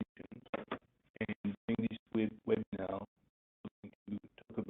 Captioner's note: audio blurs